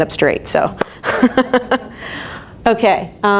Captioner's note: laughs